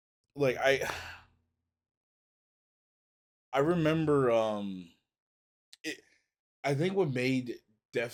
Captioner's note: sighs